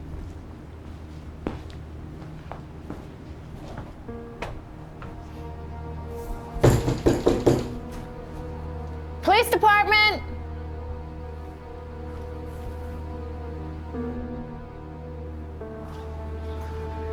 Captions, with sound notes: (knocks) Police department! (suspenseful ominous music)